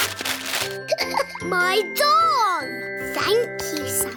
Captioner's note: laughs